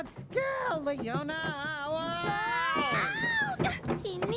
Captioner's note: yelping